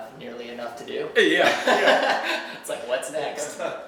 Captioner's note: laughs